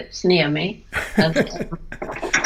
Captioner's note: laughter